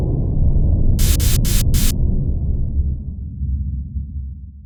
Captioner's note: air hissing